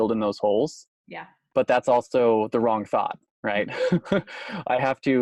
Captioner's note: laughs